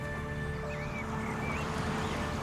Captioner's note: birds chirping